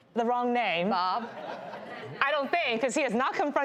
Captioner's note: audience laughing